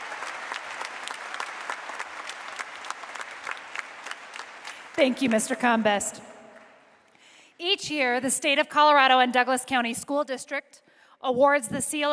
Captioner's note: applause